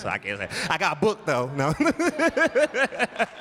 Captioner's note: laughs